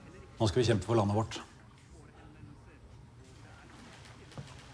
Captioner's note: none